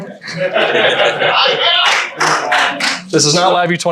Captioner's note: attendees chattering